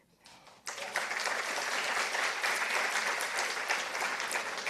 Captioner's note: participants applauding